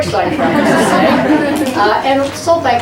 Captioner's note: audience laughs